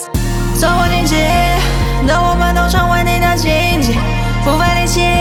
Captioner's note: fan